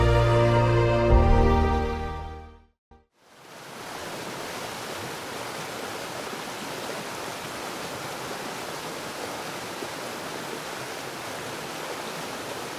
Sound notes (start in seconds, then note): 3.3 water flowing